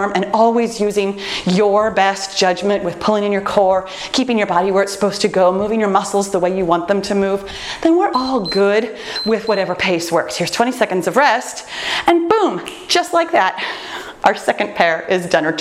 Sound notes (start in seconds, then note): 8.1 timer beeps